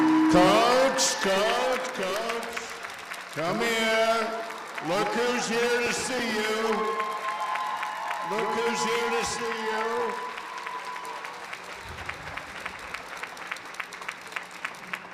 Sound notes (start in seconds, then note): 4.5 applause